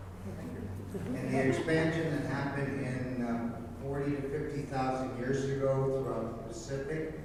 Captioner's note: now louder with microphone